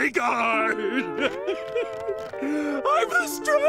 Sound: crying

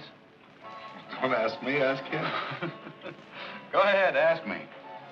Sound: Arnold laughs

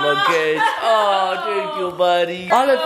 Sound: mom laughs

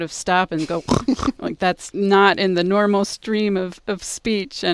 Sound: snorting noise

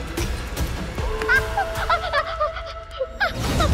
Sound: wincing; sinister music playing

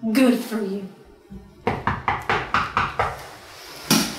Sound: knock knock knock

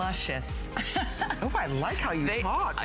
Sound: laughter

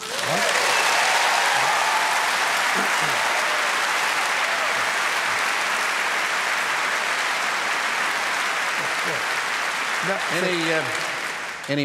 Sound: applause

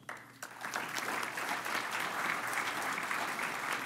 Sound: applause

